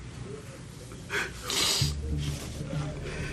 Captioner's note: sniffling